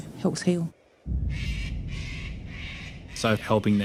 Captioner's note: birds calling